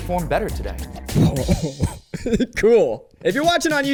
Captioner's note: chuckling